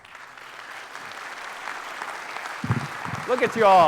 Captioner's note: audience applauding